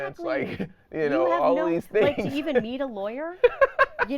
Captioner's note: laughing